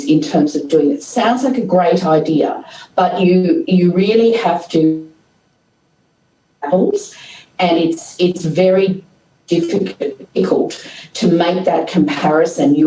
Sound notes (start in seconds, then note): 5.7 audio cuts out